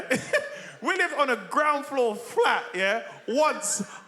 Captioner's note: both laughing